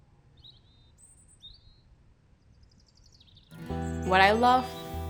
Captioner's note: birds chipping